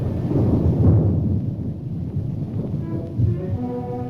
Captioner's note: thunder roaring